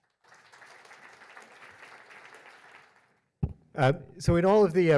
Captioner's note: audience applauds